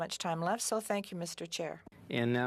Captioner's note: speaking French